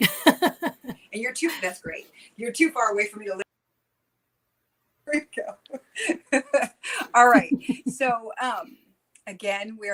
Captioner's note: laughter